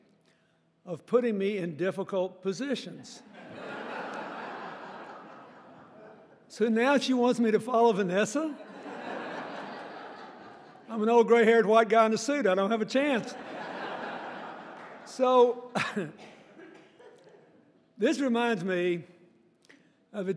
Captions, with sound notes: of putting me in difficult positions. (audience laughing) So now she wants me to follow Vanessa? I'm an old gray haired white guy in a suit, I don't have a chance. (audience laughing) So (chuckling) this reminds me of the time